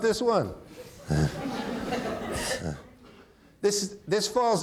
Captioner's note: audience laughing; chuckles